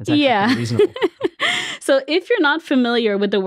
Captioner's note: laughs